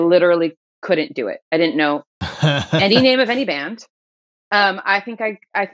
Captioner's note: laughter